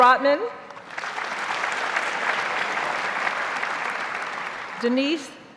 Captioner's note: audience applauds